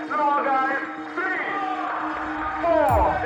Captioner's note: audience cheering